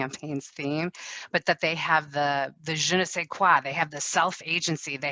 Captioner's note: speaks in foreign language